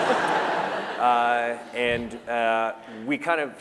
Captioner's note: laughter